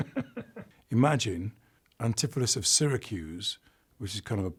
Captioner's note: he laughs